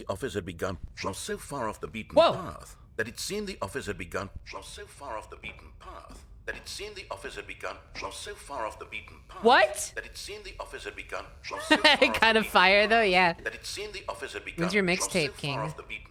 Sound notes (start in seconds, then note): 0.6 audio skipping; 4.3 audio skipping; 7.8 audio skipping; 11.4 laughing; 15.9 speaking normally